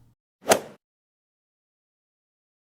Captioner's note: swoosh